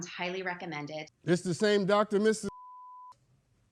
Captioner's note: beep